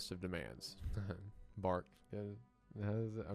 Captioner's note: chuckles